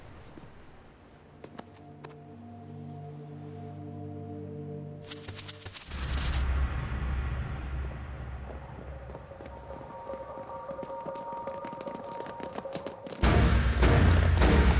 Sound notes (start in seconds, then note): 10.8 footsteps approaching